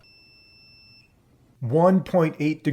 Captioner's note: beeping stops; beeping